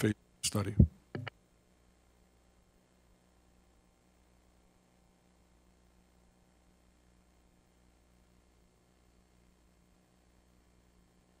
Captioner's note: silence